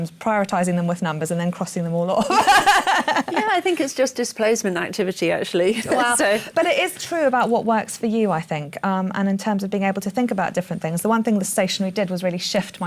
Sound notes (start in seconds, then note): 2.2 laughter